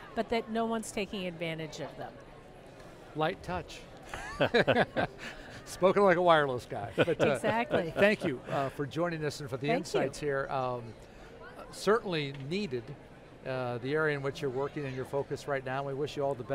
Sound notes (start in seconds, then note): 4.0 laughs